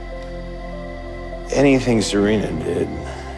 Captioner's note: voiceover